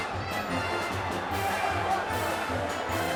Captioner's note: crowd chatter